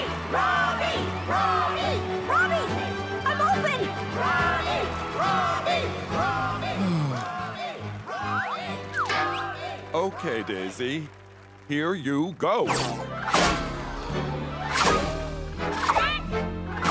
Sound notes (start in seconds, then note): 4.3 chanting continues; 6.7 sighs